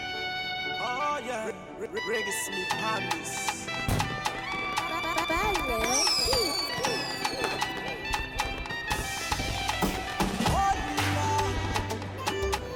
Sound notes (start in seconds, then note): 3.5 fireworks booming